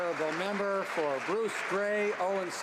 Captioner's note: some Applause